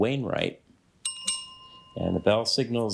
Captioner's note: bell rings